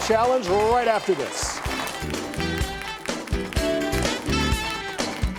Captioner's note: audience clapping